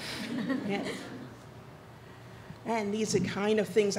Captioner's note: audience laughs